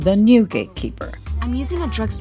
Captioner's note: soundbite of archived recording